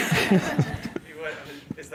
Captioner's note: laughs